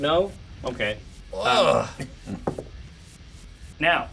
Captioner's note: groans